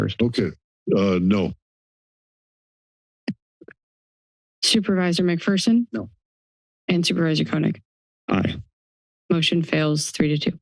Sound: pause

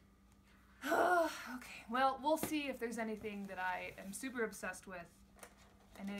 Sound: very large sigh

